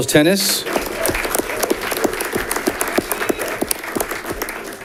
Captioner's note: audience clapping